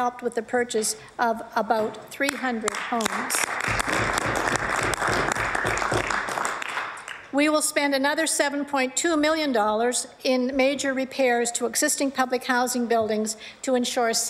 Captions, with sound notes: TO DATE THIS PROGRAM, MR. SPEAKER, HAS HELPED WITH THE PURCHASE OF ABOUT 300 HOMES. [ APPLAUSE ] WE WILL SPEND ANOTHER $7.2 MILLION IN MAJOR REPAIRS TO